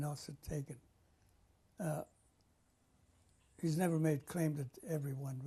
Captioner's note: pauses for 3 seconds